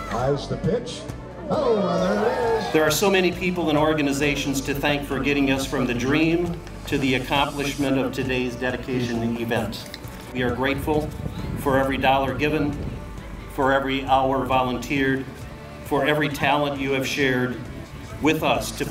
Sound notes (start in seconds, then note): 1.4 crowd cheering